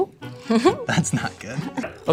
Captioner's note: chuckles